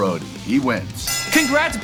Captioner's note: bell rings